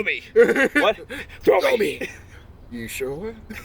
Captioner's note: laughter